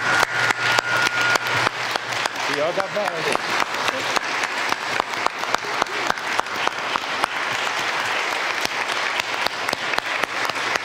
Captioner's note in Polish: oklaski